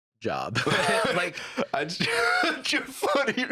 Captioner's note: both laughing